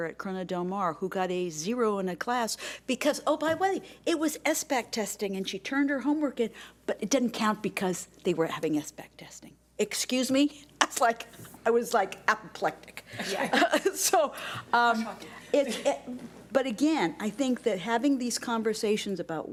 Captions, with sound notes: at Corona del Mar who got a zero in a class, because, oh by the way, it was SBAC testing and she turned her homework in but it didn't count because they were having SBAC testing. Excuse me? I was like apoplectic. (laughing) So, but again, I think having these conversations